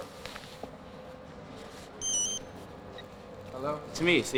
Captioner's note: cell phone ringing